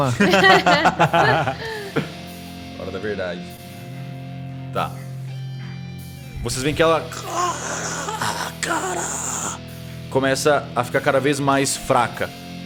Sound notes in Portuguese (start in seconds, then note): 0.0 Risadas; 7.0 Grunhidos